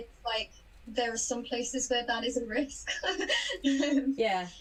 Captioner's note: laughs